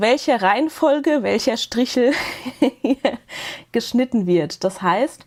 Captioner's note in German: Gelächter